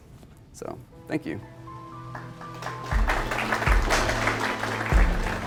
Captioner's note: applause; closing music